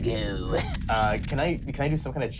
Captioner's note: skittering